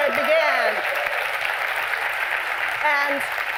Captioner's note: cheers and applause